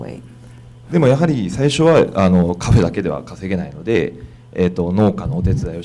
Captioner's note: speaking foreign language